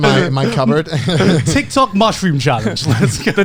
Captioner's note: laughs